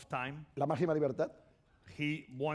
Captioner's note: speaking spanish